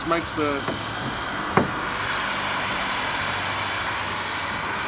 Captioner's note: blowing noise